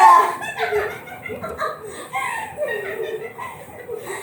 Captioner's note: giggles